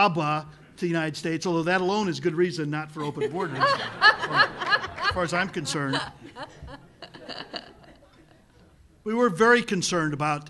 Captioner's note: hearty laughter